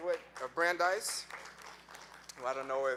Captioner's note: audience clapping